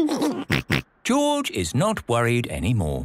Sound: giggles

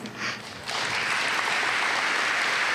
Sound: applause

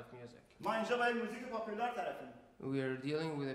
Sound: speaking in farsi

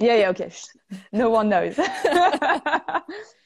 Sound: laughter

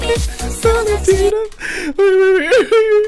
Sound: half crying; inhale

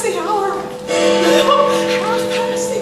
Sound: Big Ben tolls

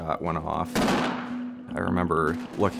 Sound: gun shots

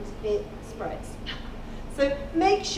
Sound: chuckling

